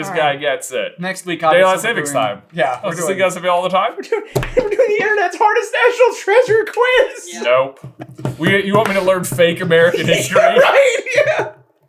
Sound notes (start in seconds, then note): 4.6 cracking up; 9.8 giggling